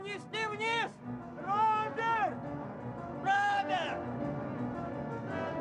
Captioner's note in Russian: кричат